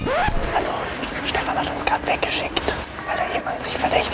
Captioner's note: flüstert